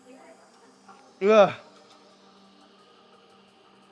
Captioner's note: man speaking in a foreign language